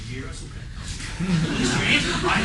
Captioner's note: laughter